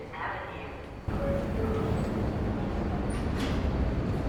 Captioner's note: train dings